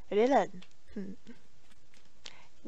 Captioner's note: pleased noises